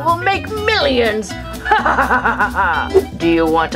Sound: duck laughs

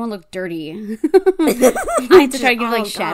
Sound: laughs

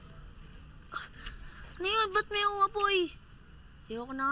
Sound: gasps

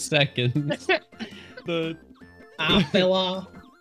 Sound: laughs again

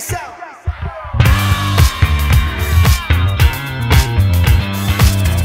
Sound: audience cheers

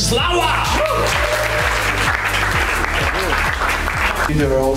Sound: cheering

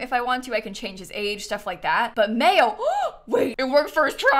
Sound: gasps

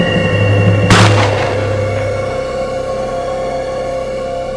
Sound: sound of shooting

